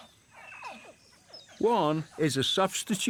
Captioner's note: baby crocodiles chirp